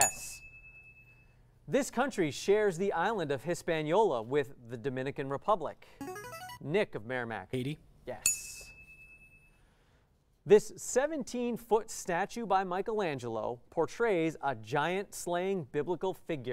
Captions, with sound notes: Yes. This country shares the island of Hispaniola with the Dominican Republic. [player buzzer] Nick of Merrimack. Haiti? Yes. [ding] This 17 foot statue by Michelangelo portrays a giant-slaying biblical figure.